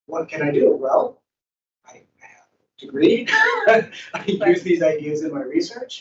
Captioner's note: laughs